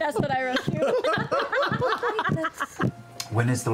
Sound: group laughter

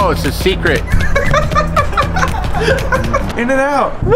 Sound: laughs

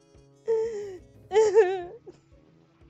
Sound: more sobbing

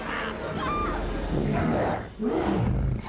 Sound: growling

